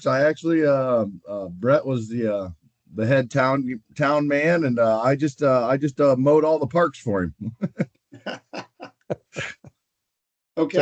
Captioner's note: laughter